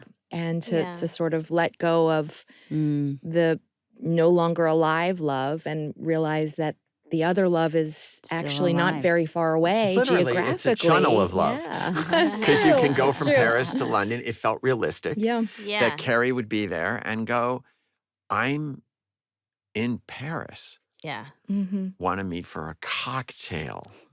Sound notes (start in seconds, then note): 9.9 chuckling